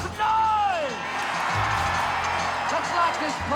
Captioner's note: crowd cheers loudly